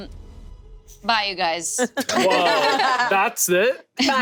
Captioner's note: group laughing